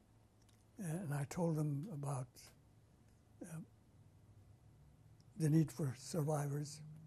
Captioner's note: pauses for 3 seconds